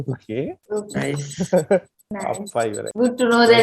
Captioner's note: laughs